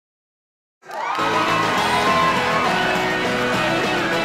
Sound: crowd cheering

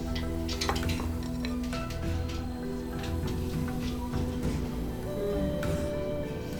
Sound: SFX: Scratching

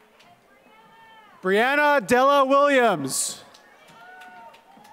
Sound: applause

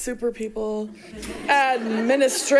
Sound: audience laughs

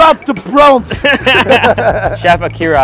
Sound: laughs

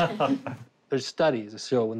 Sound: laughs

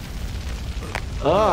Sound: cracking

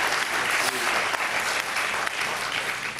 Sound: applause

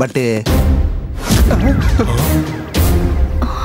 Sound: gasps

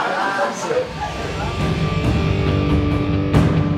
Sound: crowd laughs

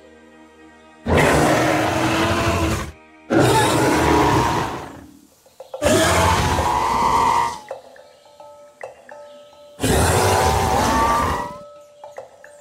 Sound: Dimetrodon Growl Sounds

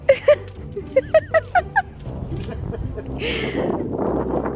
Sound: woman laughs; he laughs

